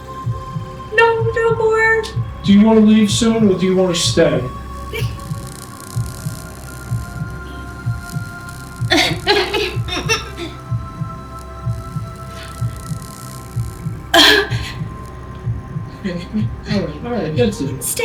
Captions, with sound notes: - No, no more. - Do you wanna leave soon or do you wanna stay? (dramatic music) (laughing) All right, that's it.